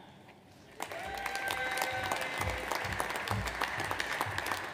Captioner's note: audience applauds